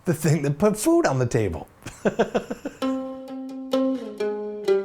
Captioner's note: laughs